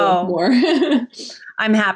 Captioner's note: laughs